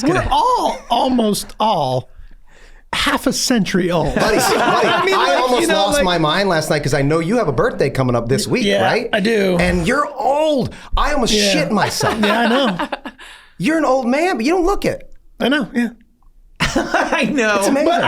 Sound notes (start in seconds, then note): 4.0 gang laugh; 13.2 laughs; 16.6 laughs